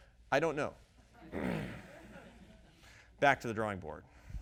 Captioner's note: audience laughing